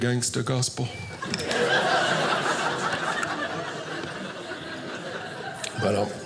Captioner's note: audience laughing